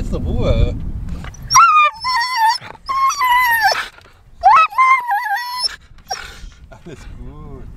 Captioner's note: Caesar is howling